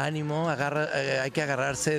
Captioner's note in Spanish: aplausos